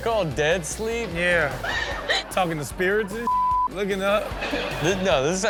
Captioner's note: beep